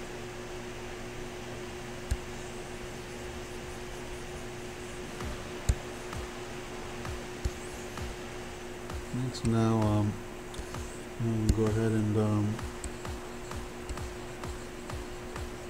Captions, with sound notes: (computer mouse tapping) (faint techno music) Okay, so now I'm gonna go ahead and, (faint techno music)